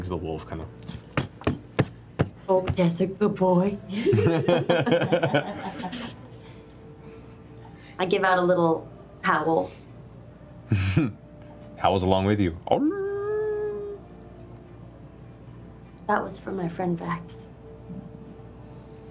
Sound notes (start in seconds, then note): 13.6 howls